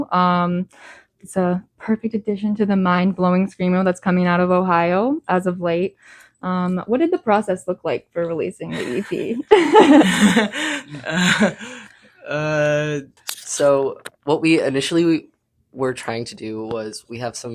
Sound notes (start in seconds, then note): 11.6 laughs; 11.6 sighs; 12.1 laughs